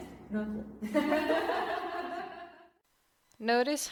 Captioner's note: laughter